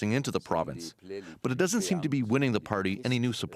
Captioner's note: speaking French